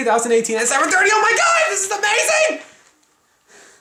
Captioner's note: shrieks excitedly